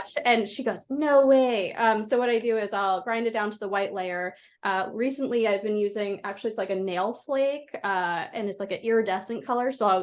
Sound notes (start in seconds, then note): none